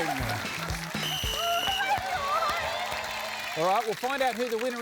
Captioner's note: blows whistle